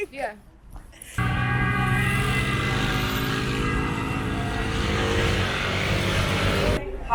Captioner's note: sirens